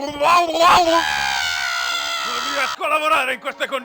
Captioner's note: scared screams